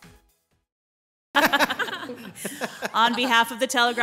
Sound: group laughing

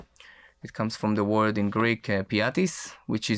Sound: speaks in foreign language; speaks in foreign language

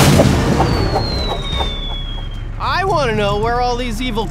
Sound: whistling and whooshing

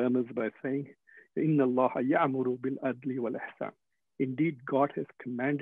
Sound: speaking Foreign Language

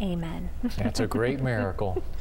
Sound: giggling

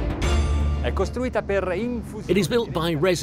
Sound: speaking in foreign language

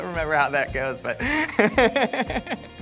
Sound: laughs lightly

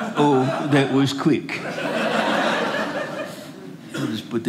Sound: audience laughing

